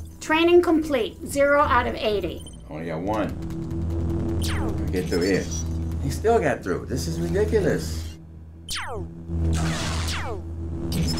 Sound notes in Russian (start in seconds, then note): 3.5 шум светового меча; 4.3 выстрел лазера; 8.6 световой меч парирует лазер; 9.4 выстрел лазера